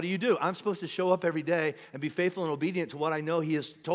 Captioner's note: none